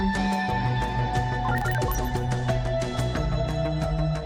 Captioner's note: computer beeps